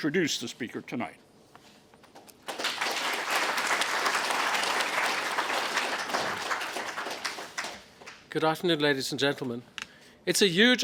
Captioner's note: applause